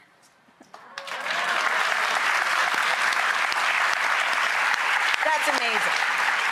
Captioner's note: audience applauds